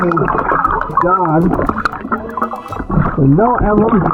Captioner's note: oxygen bubbling in water